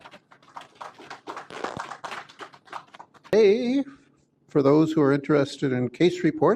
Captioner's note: applause